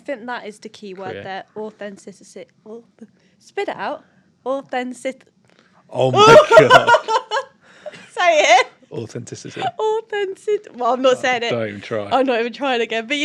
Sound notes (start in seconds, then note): 6.2 laughter